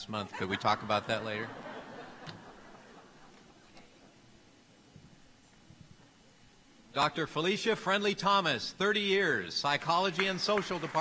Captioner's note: laughter